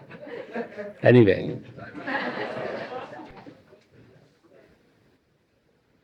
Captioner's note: laughter